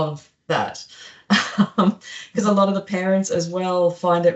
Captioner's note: laughs